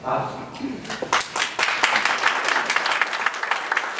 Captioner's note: applause